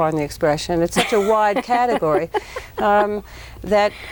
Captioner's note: laughs